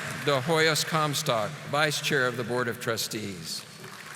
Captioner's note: audience applauding